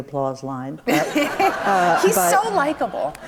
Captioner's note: audience laughs